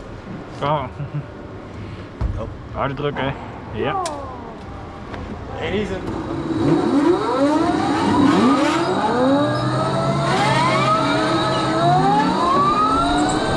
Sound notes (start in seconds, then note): 6.1 kart #5 shuts down